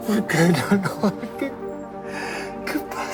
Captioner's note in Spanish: Sollozos